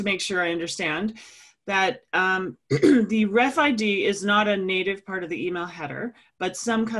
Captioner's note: cough